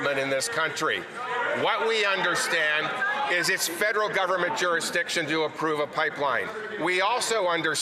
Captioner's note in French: voix de l'interprète